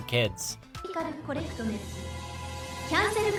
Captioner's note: speaking japanese